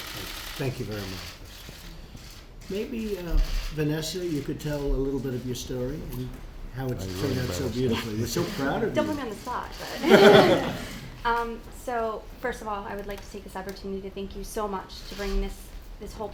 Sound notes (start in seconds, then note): 9.7 laughter